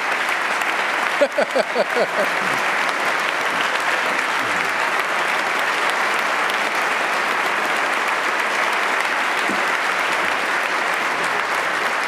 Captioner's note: applause